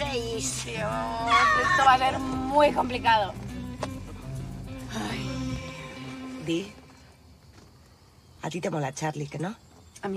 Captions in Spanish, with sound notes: Dios, esto va a ser muy complicado. (SUSPIRANDO) ¡Ay! Di, a ti te mola Charlie, ¿que no? A mí.